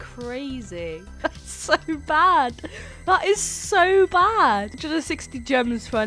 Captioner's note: laughing